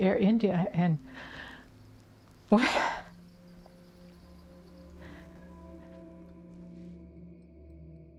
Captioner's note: sobs quietly